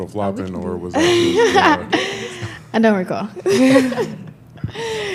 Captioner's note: laughing